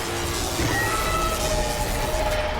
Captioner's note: dramatic music; lasers blasting; creature roaring